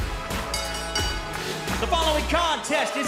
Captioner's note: bell ringing